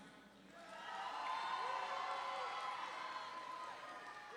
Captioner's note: audience cheering